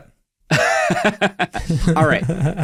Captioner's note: laughs